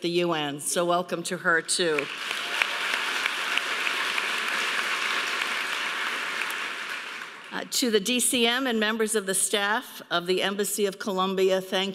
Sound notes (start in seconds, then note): 1.9 audience applauding